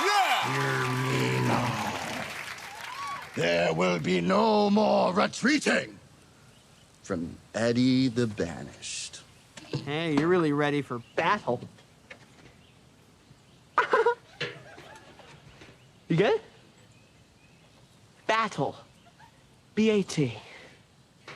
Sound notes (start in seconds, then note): 13.7 laughs